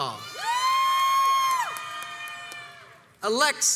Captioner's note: crowds cheers and applauds